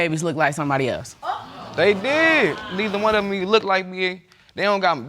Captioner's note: audience exclaiming